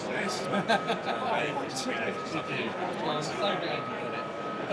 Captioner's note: laughs